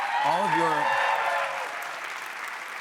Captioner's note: cheers and applause